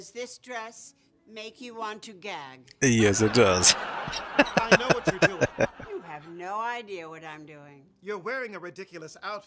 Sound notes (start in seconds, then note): 2.8 laughing